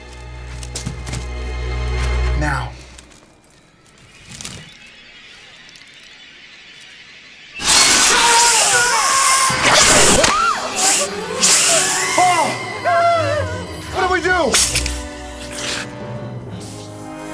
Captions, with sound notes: Now. [SNAKE HISSING THEN BOTH SCREAMING] [SHRIEKS] Oh. What do we do?